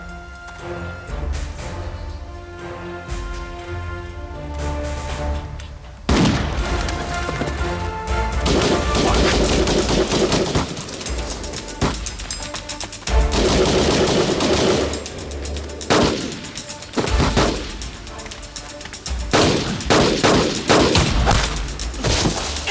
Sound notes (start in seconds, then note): 6.0 guns firing; 13.3 firing continues